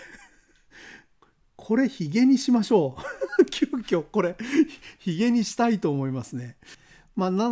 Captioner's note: laughs